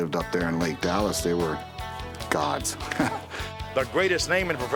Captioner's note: laughs